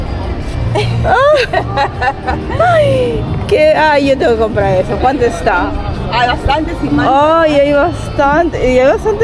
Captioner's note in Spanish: risas